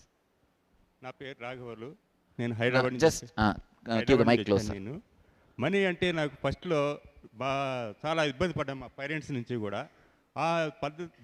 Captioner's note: speaks in telugu